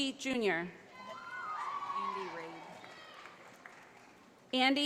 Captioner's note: audience applauding